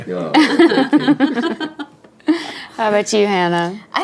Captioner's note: laughing